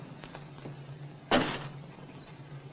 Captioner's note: footsteps; door opens